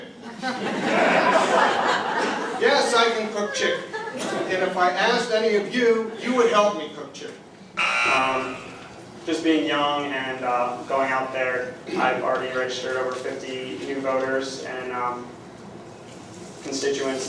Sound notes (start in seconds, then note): 0.1 laughter; 7.8 buzzer